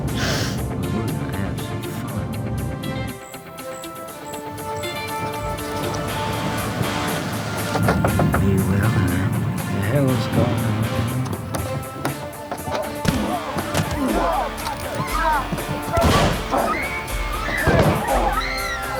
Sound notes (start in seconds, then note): 7.4 knocking; 15.3 gun fires; 18.3 screams; 18.8 crying